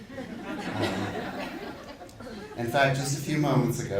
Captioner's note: audience laughing